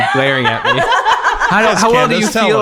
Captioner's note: everyone laughs